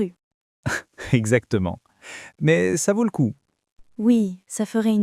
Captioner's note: laughs